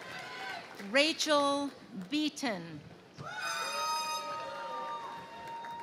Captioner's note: crowd cheering